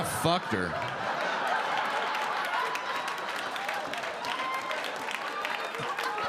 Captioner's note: audience laughing and clapping